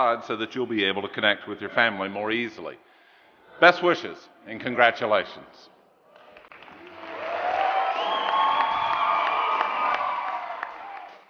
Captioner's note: applause